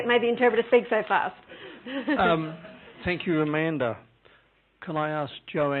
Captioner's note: laughing